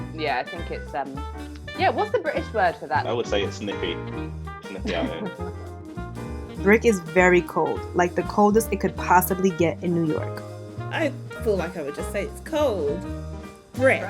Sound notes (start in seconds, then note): 6.7 voiceover